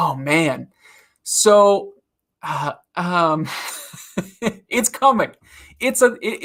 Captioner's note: laughs